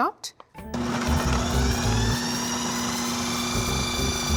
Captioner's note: processor whirring